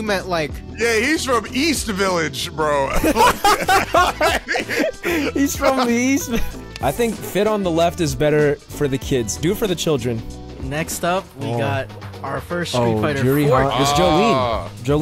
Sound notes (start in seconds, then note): 2.9 laughing